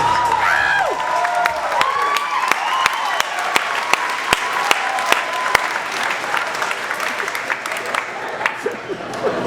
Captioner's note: applause